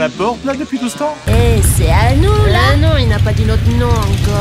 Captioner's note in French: Bruit de moteurs